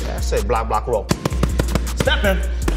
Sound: Debbie hitting punch mitts

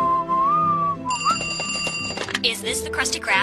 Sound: whistling; phone rings again

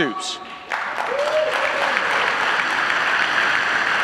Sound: audience applauding

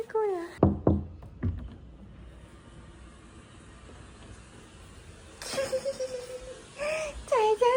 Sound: polite knock

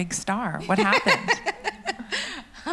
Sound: laughs

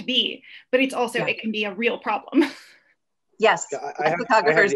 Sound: laughs

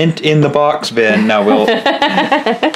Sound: laughing

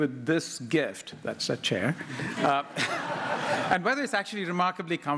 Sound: laughter

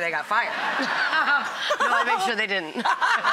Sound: both laughing; laughing loudly

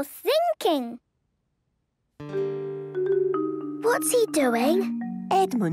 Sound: whispering

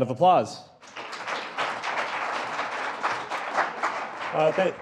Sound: applause

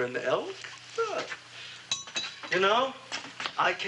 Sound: bowl ringing

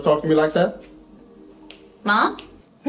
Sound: Alli snaps

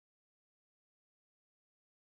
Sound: none

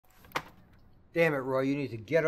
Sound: papers smack

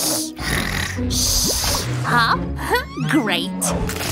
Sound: snoring

